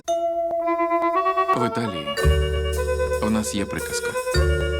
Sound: man, in English

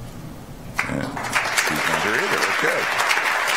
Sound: audience applauds

